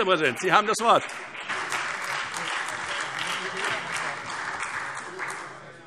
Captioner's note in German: Beifall SPD und vereinzelt AfD